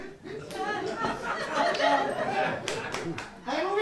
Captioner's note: audience laughs